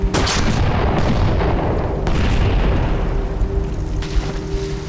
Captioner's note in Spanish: Disparos; Explosión